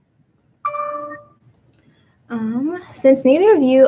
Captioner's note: computer dings